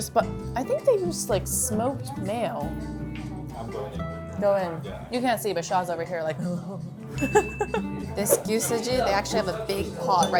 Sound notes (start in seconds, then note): 6.8 groans; 7.2 graphics chiming; 7.2 laughs